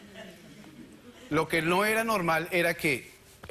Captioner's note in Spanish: Risas